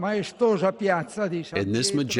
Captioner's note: through translator